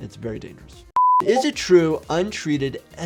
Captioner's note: beeps